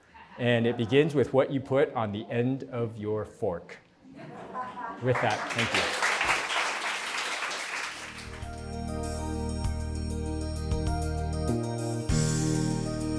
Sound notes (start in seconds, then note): 5.1 applause